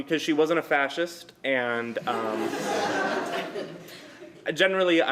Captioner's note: laughter